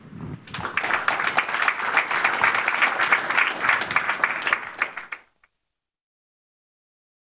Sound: applause

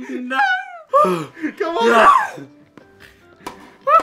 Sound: sounding exhausted

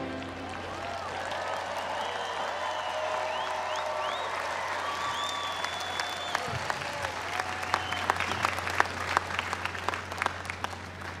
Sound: applause

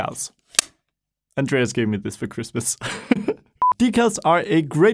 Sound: laughs

